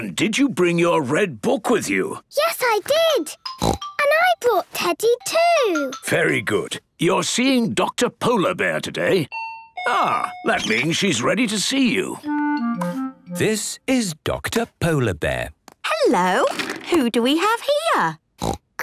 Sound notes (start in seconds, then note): 3.6 snorts; 9.5 dinging